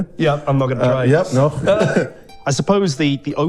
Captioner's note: laughs